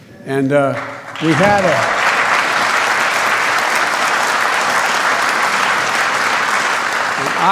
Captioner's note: applause